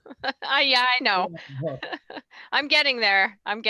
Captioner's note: laughing